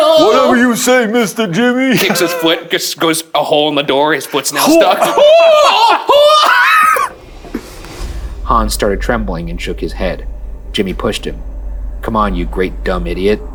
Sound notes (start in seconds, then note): 6.0 yelling